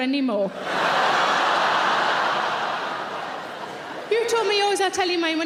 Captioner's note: audience cheering